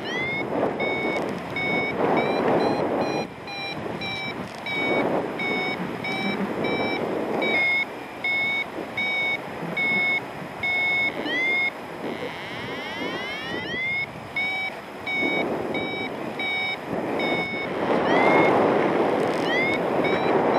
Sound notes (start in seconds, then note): 0.1 alarm accelerates; 0.1 wind whooshing; 5.3 alarm continues; 9.9 alarm slows; 12.6 alarm continues; 12.6 wind whooshing; 17.5 strong wind gusts